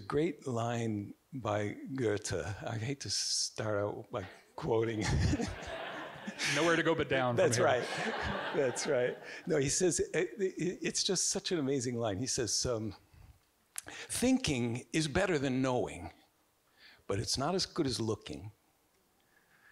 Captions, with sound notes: There's a great line by Goethe. I hate to start out by quoting. (audience giggling) (Richard giggling) - Nowhere to go, but down- - That's right. (audience giggling) That's right. No, it's just such an amazing line. He says, "Thinking is better than knowing, but it's not as good as looking."